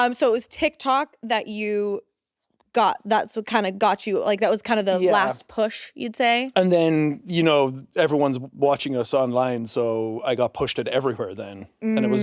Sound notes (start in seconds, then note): none